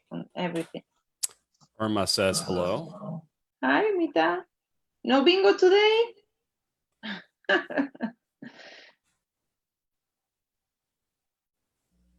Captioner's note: laughs